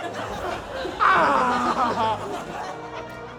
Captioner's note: anguished cry